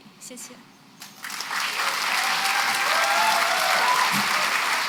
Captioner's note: applause